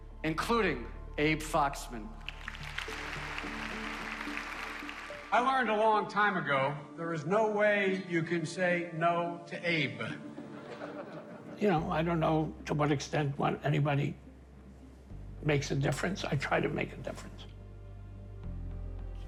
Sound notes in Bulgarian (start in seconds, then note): 5.2 Аплодисменти; 10.2 Публиката се смее